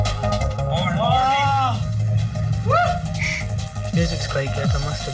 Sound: upbeat techno music; attendees exclaim

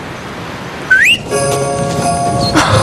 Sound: husband whistles

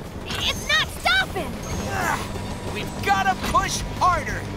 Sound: grunting

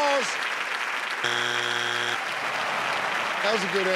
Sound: board honks; audience sighing

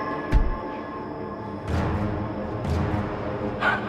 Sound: footsteps

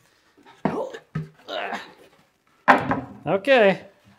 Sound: grunting

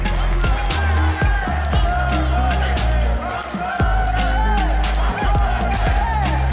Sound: team cheeres loud and in high-pitched voices

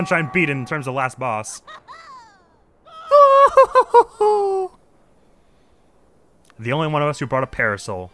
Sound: various screaming as characters fall

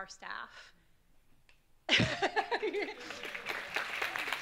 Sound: audience claps

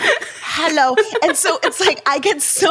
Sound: laughing

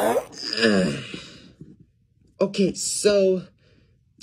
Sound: groans

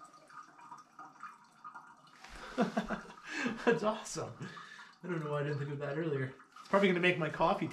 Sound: laughing

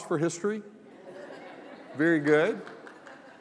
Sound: laughter

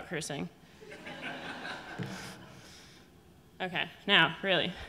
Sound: audience laughing

